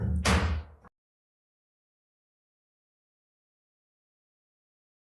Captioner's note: gavel banging